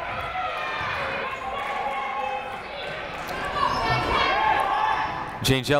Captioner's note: people shouting in the crowd